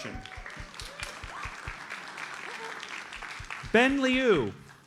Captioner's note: audience applauds